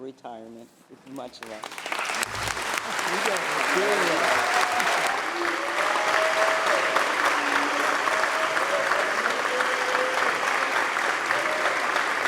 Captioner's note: applause